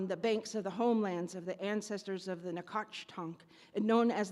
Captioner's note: speaks in Native language